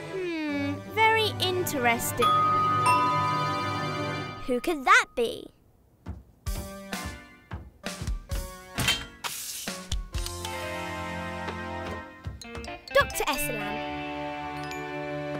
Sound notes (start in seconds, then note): 2.2 doorbell chimes; 6.6 pleasant music